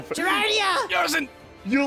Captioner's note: pained